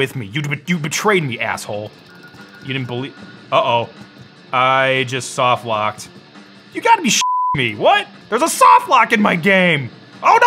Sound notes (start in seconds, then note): 7.2 beep